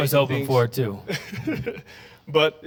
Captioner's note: laughter